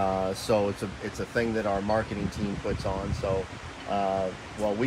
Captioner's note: none